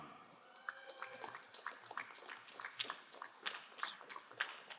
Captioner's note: crowd applauding